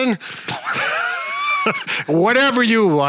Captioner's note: laugh